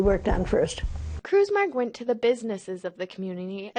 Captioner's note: voiceover